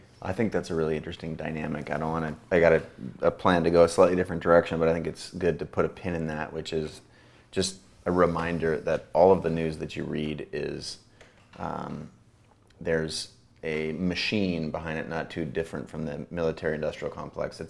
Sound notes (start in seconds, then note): none